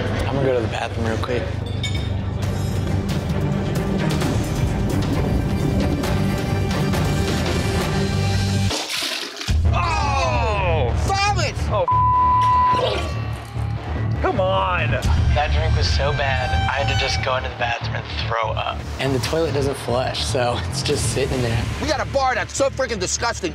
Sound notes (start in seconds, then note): 2.0 suspenseful music; 8.6 throwing up; 11.8 beep